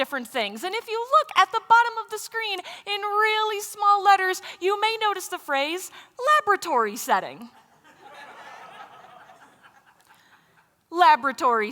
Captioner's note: laughter